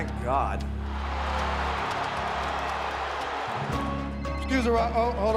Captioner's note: crowd booing; phone ringing